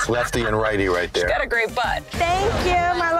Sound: laughing

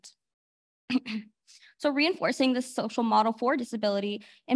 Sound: clears throat

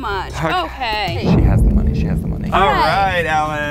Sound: whispering

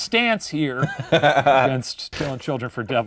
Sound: laughing

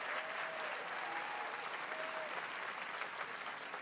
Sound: applause

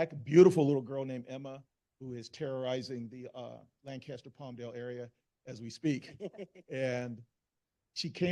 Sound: laughter

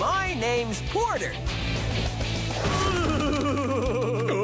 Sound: james groans

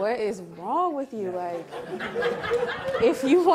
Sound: audience laughing

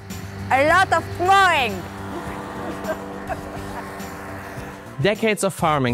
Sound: laughs

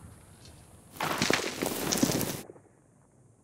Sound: dirt thuds

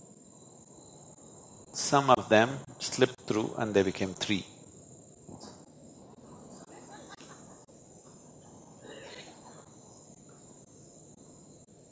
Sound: laughs/Laughter

